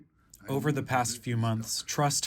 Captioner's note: through translator